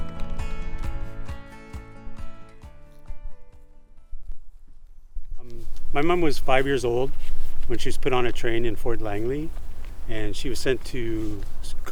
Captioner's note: applause